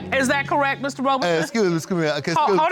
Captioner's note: stutters